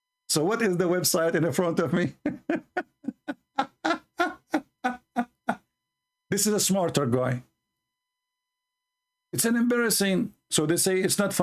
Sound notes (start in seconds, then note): 2.1 Ketawa